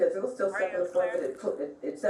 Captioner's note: radio chatter